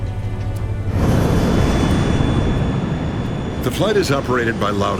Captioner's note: plane engine roars